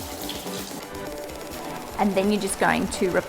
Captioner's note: water running